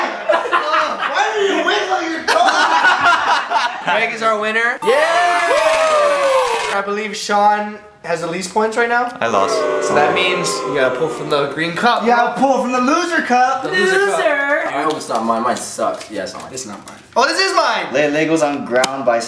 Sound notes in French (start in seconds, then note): 4.9 encouragements et applaudissements